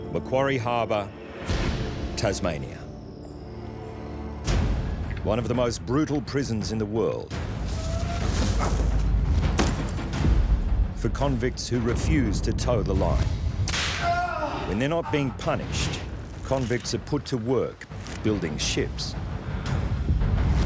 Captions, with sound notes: Macquarie Harbor, Tasmania. One of the most brutal prisons in the world... [shackles clanking] for convicts who refuse to toe the line. [man shouts] When they're not being punished convicts are put to work building ships.